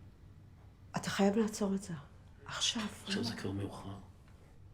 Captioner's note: foreign language